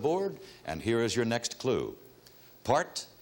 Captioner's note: none